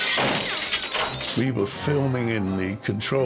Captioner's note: gunshot